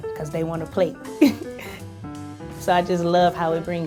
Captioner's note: chuckles